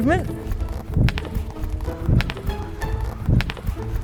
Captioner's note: wafting noise